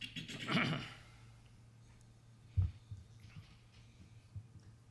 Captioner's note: clears throat